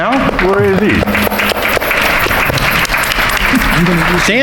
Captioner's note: audience applauding